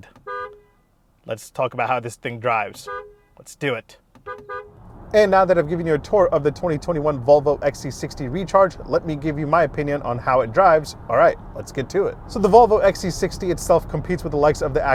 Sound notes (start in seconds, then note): 0.0 horn honking; 2.7 horn honking; 4.4 car engine roaring